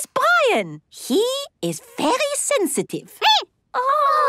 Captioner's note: squeaking